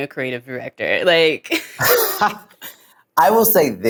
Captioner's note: laugh